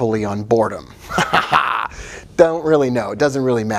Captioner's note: laughing